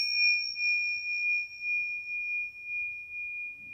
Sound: bell dinging

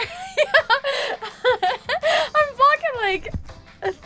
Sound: laughing

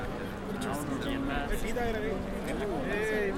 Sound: hubbub

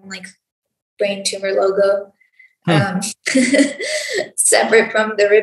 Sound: laughs

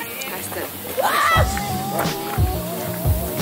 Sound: someone screamed

